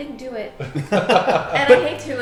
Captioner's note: laughing